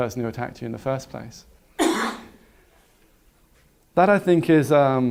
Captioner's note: cough